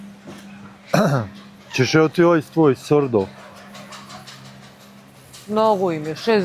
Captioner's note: coughs